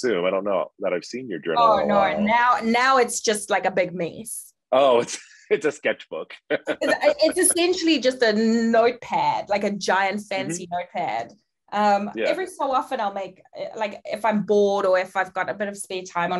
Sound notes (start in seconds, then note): 6.8 laughing